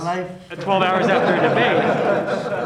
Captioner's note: laughter